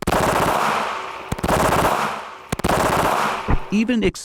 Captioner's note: rapid gunfire